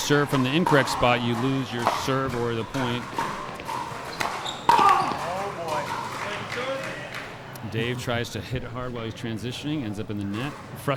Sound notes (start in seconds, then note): 3.3 ball clacking; 4.8 grunting